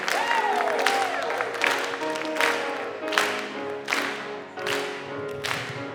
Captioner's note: choir clapping; gentle piano music